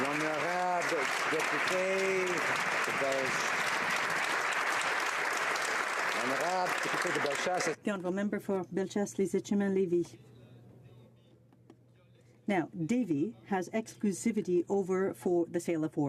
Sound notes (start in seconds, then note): 1.6 applause